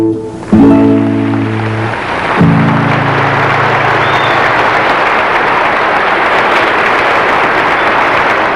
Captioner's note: applause